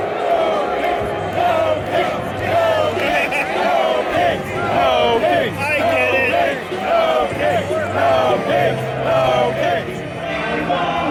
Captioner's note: ”No Kings” chant